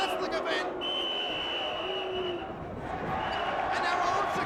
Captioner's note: whistle blows